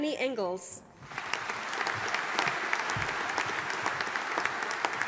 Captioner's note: audience applauding